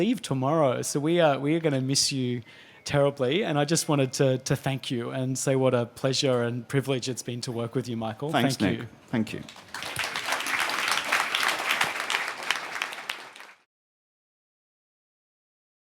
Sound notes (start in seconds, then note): 9.3 applause